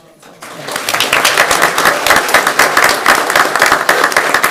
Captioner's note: group clapping